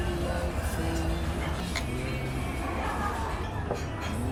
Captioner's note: laughs